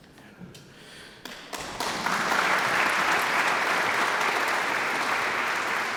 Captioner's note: audience applauds